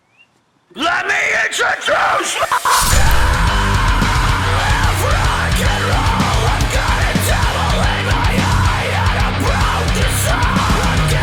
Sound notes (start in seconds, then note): 2.6 blade slices